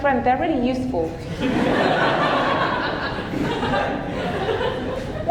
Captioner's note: audience laughing